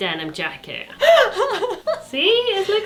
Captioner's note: laughing